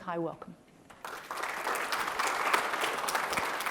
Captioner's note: applause